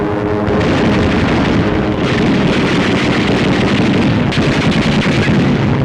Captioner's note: guns firing